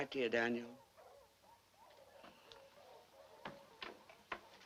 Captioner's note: dogs barking